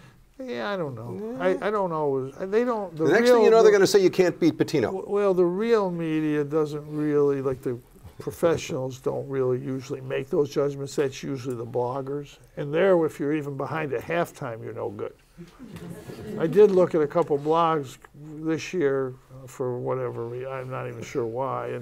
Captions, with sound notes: - Yeah I don't know. I don't always, I don't, the real. - The next thing you know they're gonna say you can't beat Boetino. - Well the real media doesn't really like the professionals don't really usually make those judgements. That's usually the bloggers and there if you're even behind at halftime you're no good. (laughter) I did look at a couple blogs this year for whatever, I'm not even sure why